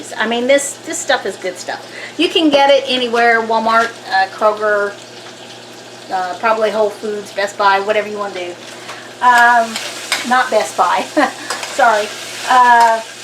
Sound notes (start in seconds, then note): 11.3 laughs